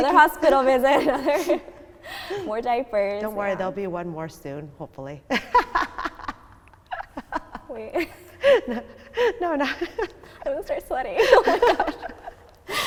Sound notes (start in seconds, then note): 5.5 laughing